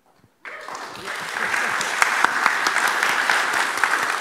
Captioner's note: applauds